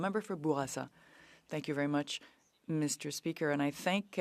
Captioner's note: speaking French